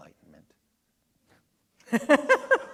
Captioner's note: laughter